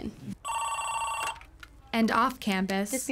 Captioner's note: phone ringing